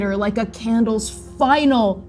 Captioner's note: none